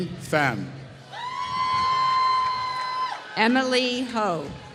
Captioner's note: applause